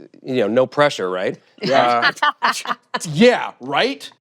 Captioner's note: laughter